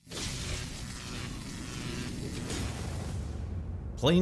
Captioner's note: logo whirring